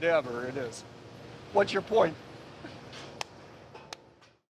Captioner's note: laughs